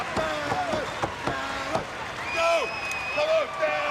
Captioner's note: crowd chatter